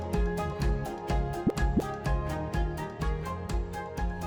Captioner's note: graphic pops